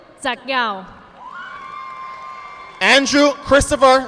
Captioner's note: audience applauding